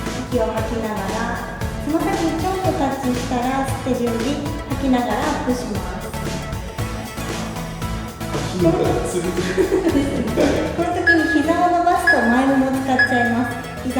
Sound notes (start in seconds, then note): 8.4 laughs